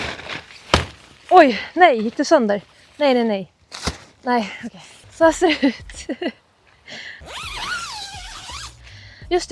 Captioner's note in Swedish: skratt